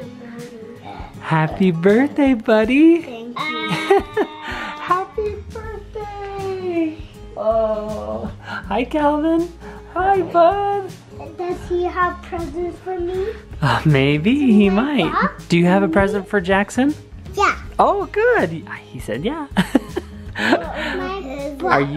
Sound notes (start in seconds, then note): 3.6 laughs